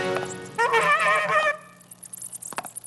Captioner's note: blows horn